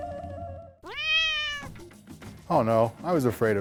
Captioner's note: cat meows